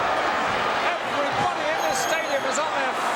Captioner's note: audience cheering